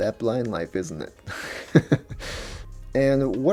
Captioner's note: laughs